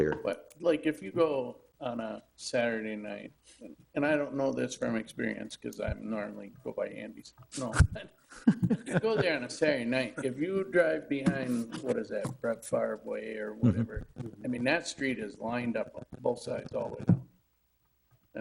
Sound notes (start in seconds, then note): 8.3 chuckling